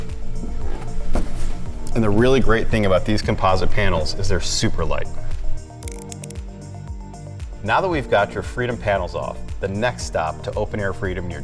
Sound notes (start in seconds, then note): 0.2 relaxed music; 5.8 words clicking